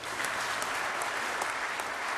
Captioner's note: applause